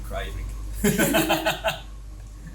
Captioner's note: both laugh